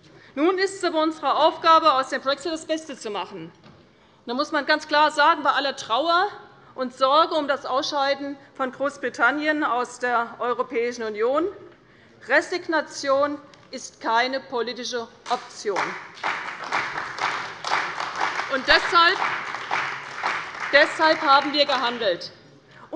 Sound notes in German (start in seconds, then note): 15.7 Beifall bei der CDU und dem BÜNDNIS 90/DIE GRÜNEN